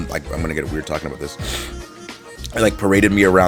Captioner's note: sniffs